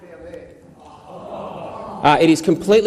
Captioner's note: exclaiming